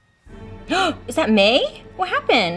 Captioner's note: gasps